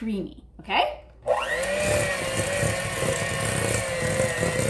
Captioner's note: mixer whirring